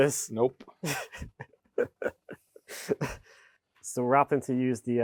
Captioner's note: speaker laughing